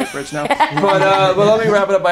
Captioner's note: laughing